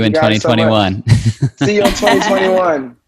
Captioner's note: laughs